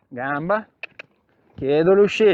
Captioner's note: cluck